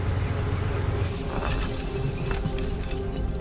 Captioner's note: glass rolling